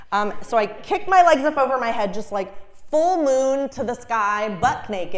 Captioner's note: none